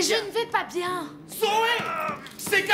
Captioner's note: pounding